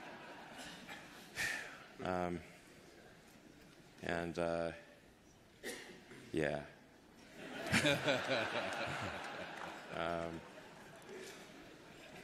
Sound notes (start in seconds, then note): 5.6 laughter